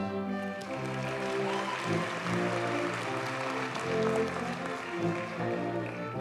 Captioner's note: audience cheers and applauds